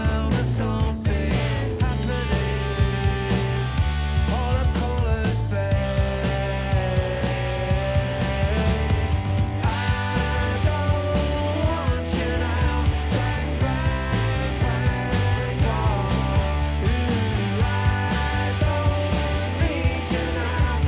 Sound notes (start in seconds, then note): none